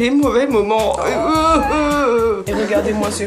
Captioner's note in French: pleurs